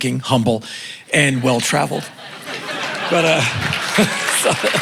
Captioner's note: laughter and applause